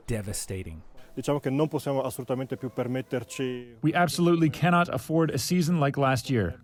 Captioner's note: through translator